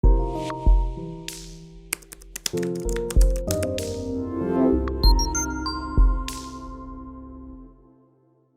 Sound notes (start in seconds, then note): 0.0 typing on Keyboard; 0.0 background Music